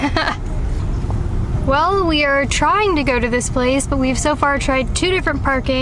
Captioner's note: laughs